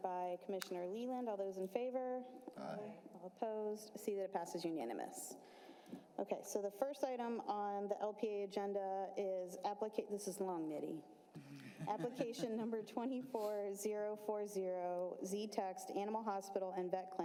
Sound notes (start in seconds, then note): 5.7 chorus of ayes